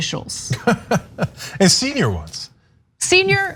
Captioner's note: laugh